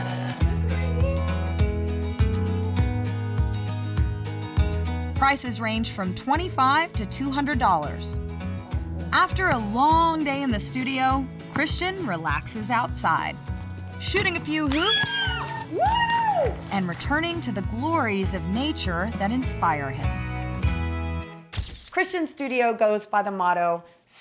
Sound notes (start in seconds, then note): 14.6 cheering, whooping